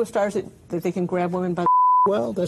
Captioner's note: beep